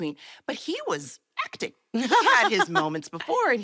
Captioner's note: laughs